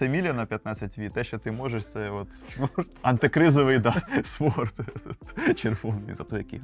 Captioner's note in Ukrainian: сміх